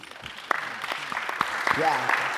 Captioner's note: audience applauding